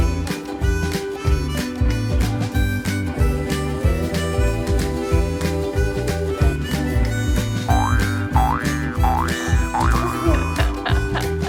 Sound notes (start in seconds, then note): 7.7 derp-face boing; 10.3 laughs